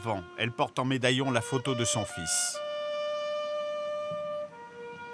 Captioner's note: Hebrew spoken audio